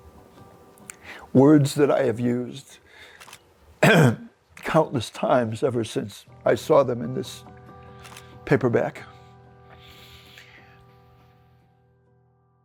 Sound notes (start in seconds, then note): 3.8 clearing throat; 10.2 soft music